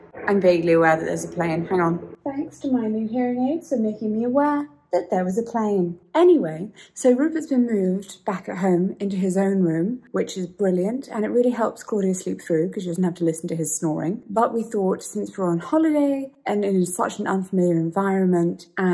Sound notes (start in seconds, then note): none